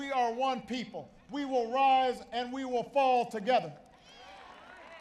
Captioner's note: applause